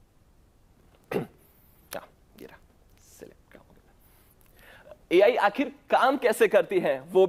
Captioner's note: clears throat